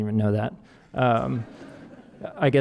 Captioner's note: audience laughing